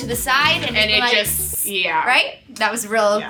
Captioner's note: imitates water